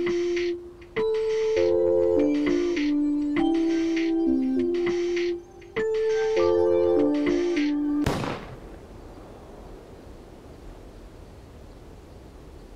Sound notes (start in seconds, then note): 8.0 gun firing